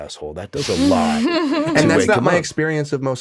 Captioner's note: laughs